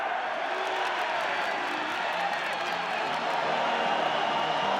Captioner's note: people cheering